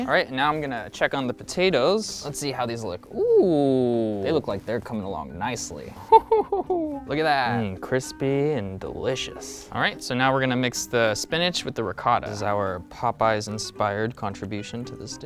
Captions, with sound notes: All right, now I'm gonna check on the potatoes. Let's see how these look. Ooh, they look like they're coming along nicely. (laughs) Look at that, crispy and delicious. All right, so now we're gonna mix the spinach with the ricotta, is our Popeye's inspired contribution to this dish.